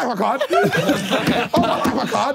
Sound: everyone laughing

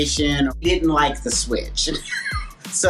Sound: laughing

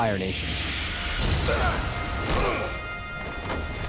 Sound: groaning

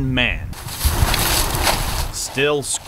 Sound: footsteps

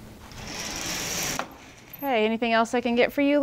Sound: metal screeching

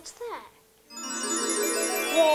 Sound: tinkling bells chime

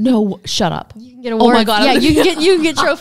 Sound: laughs

